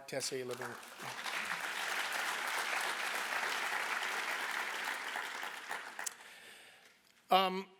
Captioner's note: applause